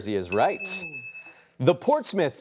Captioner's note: chiming